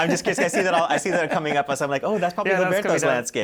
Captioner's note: laughter